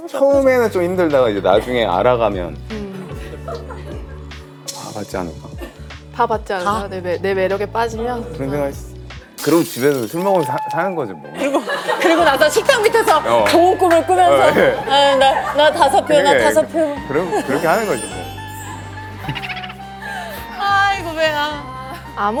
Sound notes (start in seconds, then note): 19.3 laughs